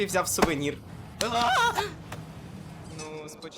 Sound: screams

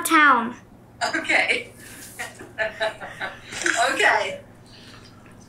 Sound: laughs

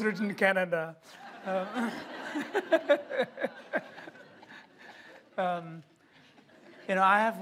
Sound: laughter

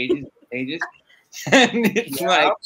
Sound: laughs; laughs

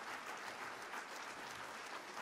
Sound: applause

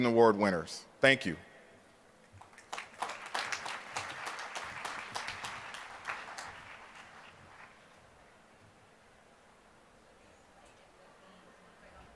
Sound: applause

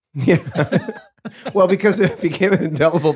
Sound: laughing

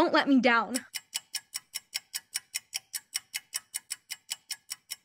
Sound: ticking noises

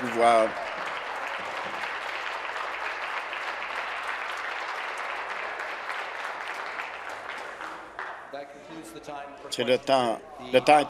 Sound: applause

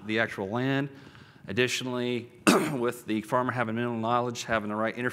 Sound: cough

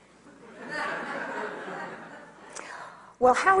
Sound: audience laughs

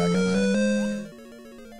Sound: 8-bit LoZ item achieved audio

